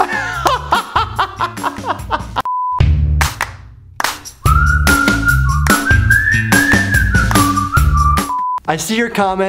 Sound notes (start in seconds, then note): 0.1 laughing; 2.4 beep; 2.7 upbeat intro music; 8.2 beep